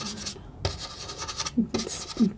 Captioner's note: scratching